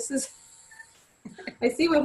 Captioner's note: laughs